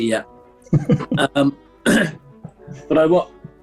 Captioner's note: chuckling; clears throat